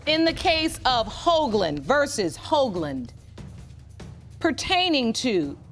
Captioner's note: none